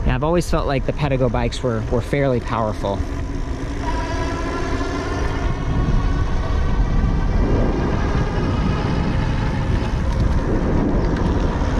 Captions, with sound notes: I've always felt like the Pedego bikes were fairly powerful. (wind rustling and motor whirring)